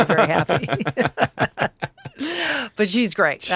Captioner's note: Billy and Kris laugh